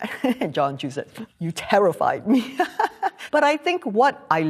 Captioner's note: laughs